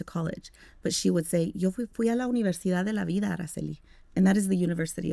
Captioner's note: speaking Spanish